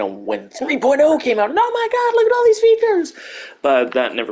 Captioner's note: higher pitched voice; normal voice